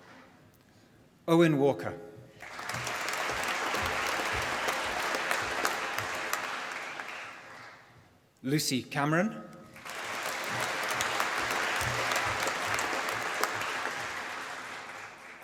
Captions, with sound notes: Eoin Walker. (APPLAUSE) Lucy Cameron. (APPLAUSE)